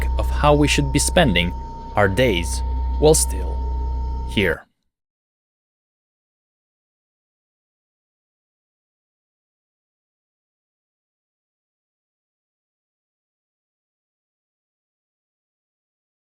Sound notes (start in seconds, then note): none